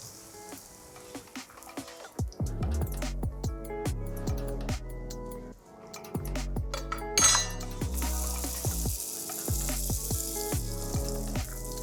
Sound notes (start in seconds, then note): 2.6 gentle music continues; 7.1 pan sizzling